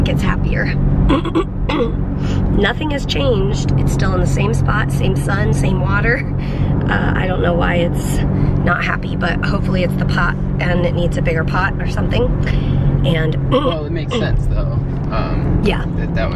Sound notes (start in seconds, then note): 1.1 clearing throat